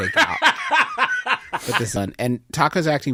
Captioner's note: bursts into laughter